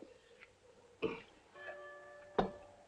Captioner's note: bell clanging